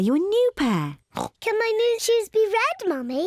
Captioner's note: oinks